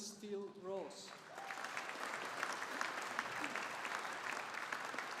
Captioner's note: audience applauding